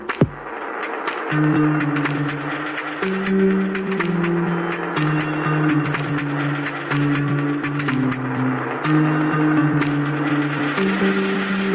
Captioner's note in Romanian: Aplauze